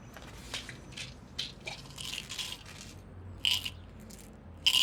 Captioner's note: pills rattling